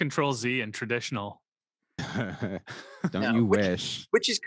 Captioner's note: laughs